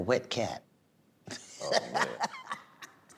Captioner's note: laughs